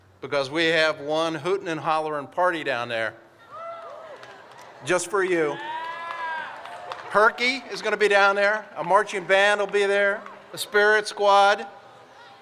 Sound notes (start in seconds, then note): 3.7 audience cheers